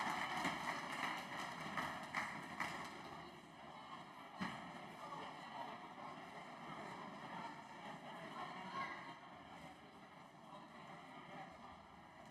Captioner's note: applause